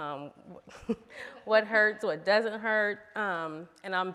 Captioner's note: laughs